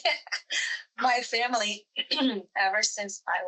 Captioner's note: laughs